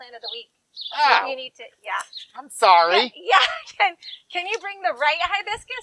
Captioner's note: laughs